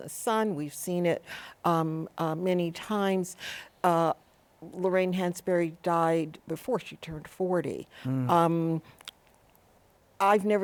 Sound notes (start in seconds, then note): none